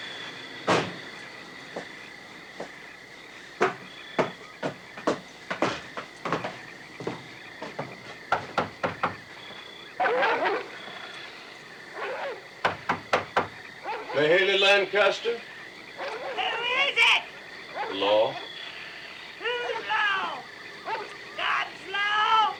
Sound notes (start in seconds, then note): 7.6 knocking; 9.9 barking